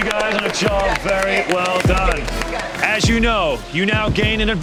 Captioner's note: all applauding